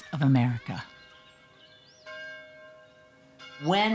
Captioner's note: bell tolling